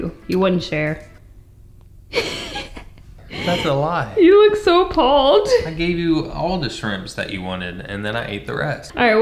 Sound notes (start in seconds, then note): 2.1 cheeky laughter